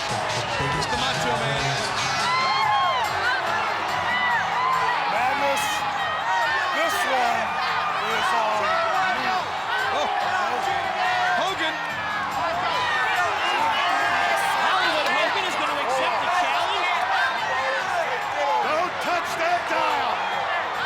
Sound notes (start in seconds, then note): 2.2 audience cheering